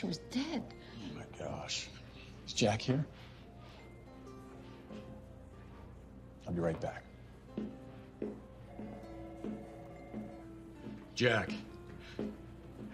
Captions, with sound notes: - Oh my gosh. Is Jack here? I'll be right back. (phonene ringing) Jack. How's she doing?